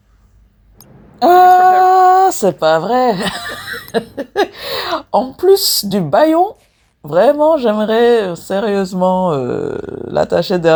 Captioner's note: laughs